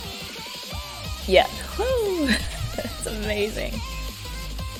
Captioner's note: laughs